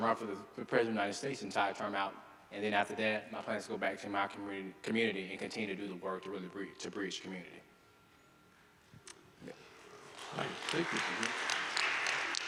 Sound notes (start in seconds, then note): 10.0 audience applauding